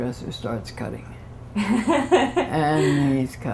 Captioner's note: laughter